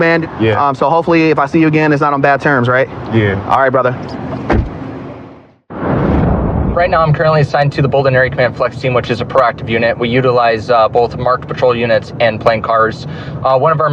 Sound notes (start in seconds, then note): 4.1 door r shshuts